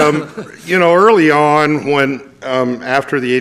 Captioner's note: laughter